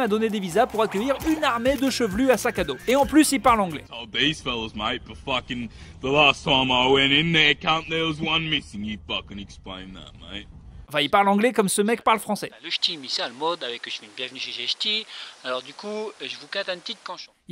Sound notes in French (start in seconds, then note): 5.9 accent australien